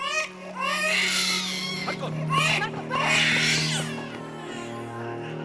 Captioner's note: baby cries